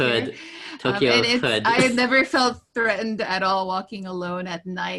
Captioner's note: laughs